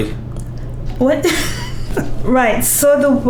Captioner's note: laughs